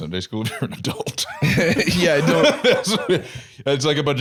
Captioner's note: laughs